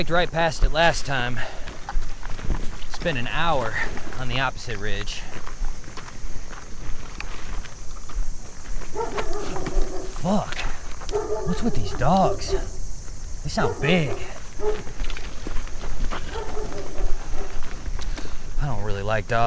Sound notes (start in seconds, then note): 5.9 footsteps crunching; 5.9 insects chittering; 10.5 Pete gasps; 11.0 dog barks; 15.5 footsteps crunching; 16.1 dog barks